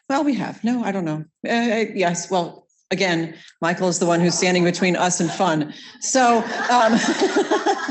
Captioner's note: laughing